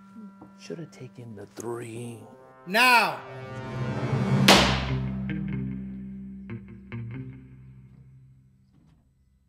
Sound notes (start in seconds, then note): 4.4 gavel bangs; 5.0 solemn music